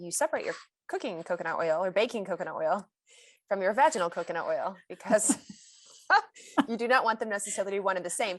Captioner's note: chuckles